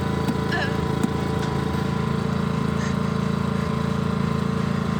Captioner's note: engine revving